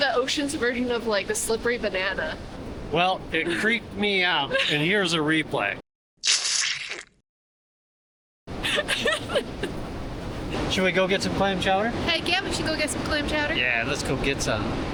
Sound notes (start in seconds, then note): 7.0 laughter